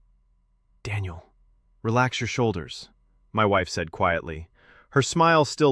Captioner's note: whispers